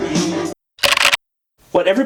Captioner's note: singing: What you can truly be; keyboard typing sounds